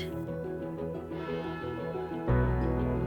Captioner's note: church bell tolling